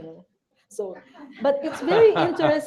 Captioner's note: laughter